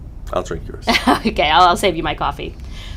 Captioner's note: laughs